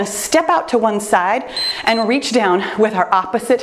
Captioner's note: timer beeps